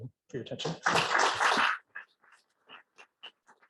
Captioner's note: claps